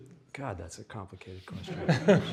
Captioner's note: audience laughs